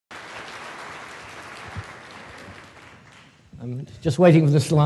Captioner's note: applause